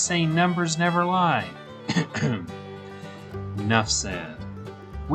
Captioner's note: cough